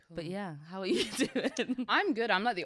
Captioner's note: chuckles